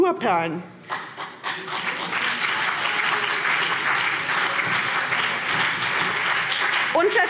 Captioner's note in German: Beifall BÜNDNIS 90/DIE GRÜNEN und vereinzelt CDU